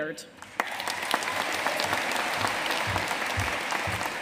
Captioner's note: audience applauding